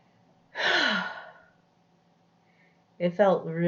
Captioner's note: sighs